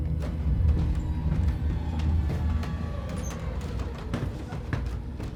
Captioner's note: stairs squeaking